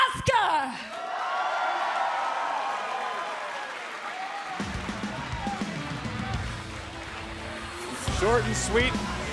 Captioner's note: cheers and applause